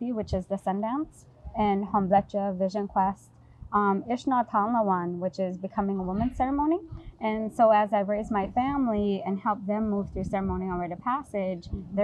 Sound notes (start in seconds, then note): 1.3 speaks in foreign language